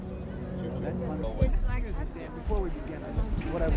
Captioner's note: indistinct chatter